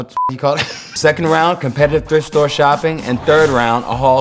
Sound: laugh

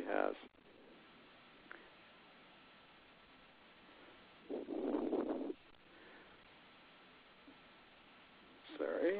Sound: silence

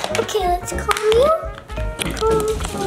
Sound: comb tapping glass

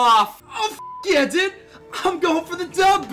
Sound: beeps

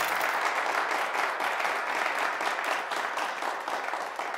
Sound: audience claps

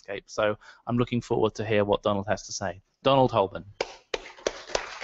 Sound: claps

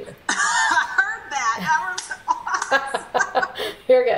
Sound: laughs

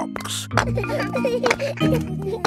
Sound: children laughing

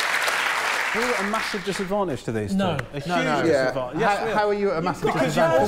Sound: applause

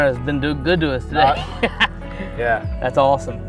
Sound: laughter

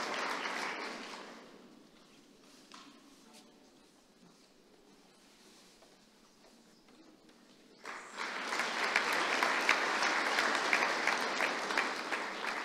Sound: applause

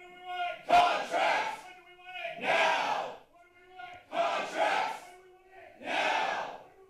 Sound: protester shouting

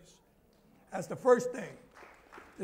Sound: applause

